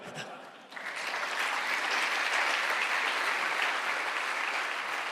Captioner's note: applause